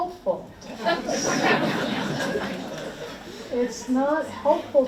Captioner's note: audience laughs